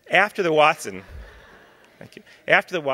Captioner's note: laughter